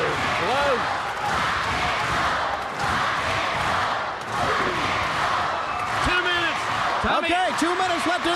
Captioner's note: crowd cheering